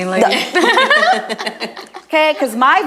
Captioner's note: group laughs